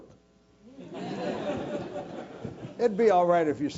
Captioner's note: laugh